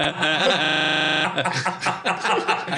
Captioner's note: giggles are glitching; everyone laughs